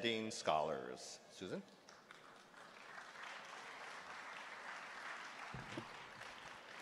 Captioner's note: applause